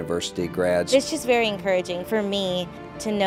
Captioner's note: voiceover